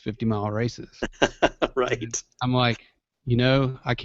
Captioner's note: laughter